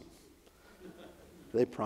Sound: audience laughs

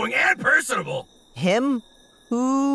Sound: crickets chirping

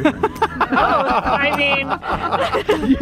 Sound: laughs; laughing

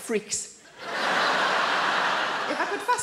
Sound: audience laughing

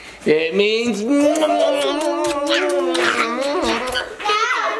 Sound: lips smacking

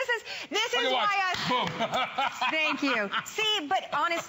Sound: laughter

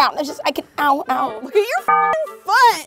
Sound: beeps

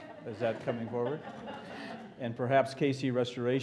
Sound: laughter

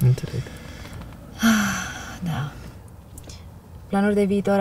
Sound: sighs

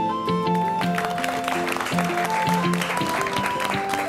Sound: applause

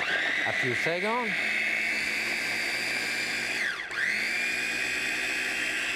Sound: food processor whirring

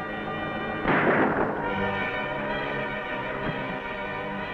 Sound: gunshots booming

